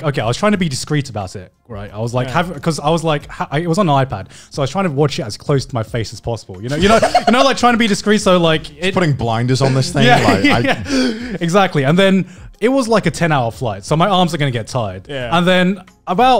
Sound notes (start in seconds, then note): 6.7 laughing